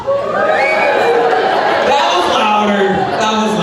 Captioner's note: crowd cheering